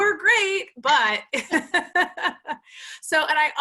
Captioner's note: laughs